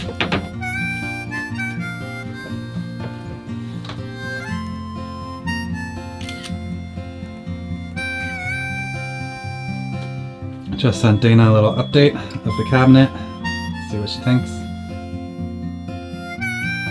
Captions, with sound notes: (camera shutter clicks) Just sent Dana a little update with the cabinet, see what she thinks.